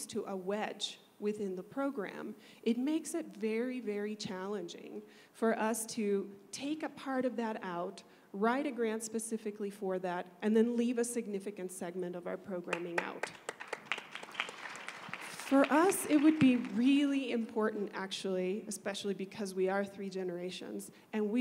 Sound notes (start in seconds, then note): 12.7 applause